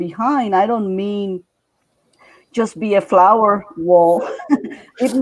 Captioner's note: laughing